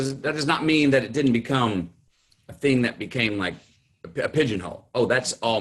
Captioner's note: none